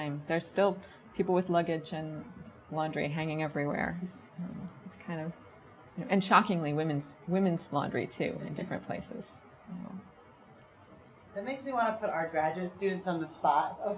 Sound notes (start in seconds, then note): none